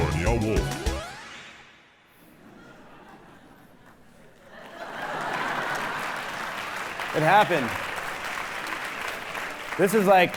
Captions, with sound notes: - Brought to you by Meow Wolf. (audience laughing) - It happened.